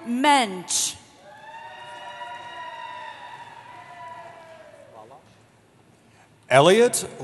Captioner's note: cheering